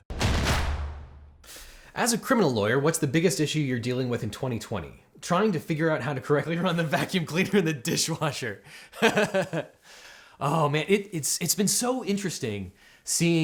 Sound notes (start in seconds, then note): 0.0 drums beat; 8.9 host laughs